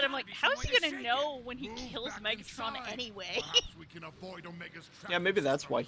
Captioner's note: laughs